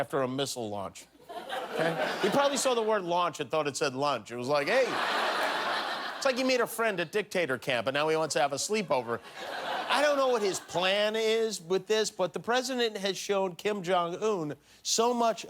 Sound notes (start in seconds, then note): 8.8 laughter